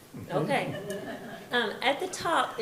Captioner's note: participants laugh